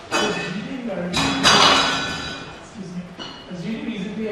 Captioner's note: clanging